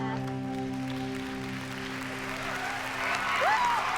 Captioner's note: cheering